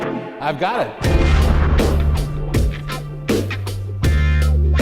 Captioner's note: explosion; funky music